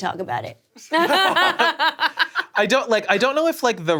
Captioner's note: all laughing